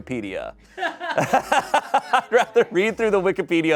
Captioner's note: everyone laughs